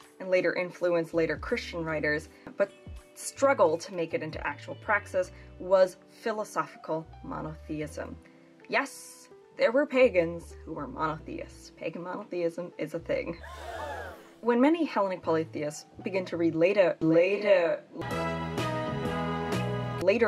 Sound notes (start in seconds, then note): 13.4 people gasping; 18.0 bright music